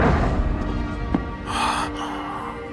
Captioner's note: thudding stops